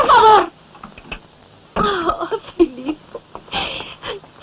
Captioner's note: sobs